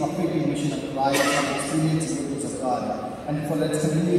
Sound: cough

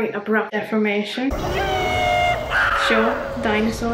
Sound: dinosaur roars; yee-haws

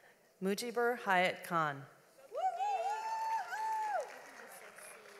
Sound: audience applauds

